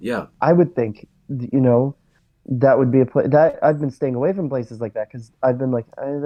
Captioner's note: stammers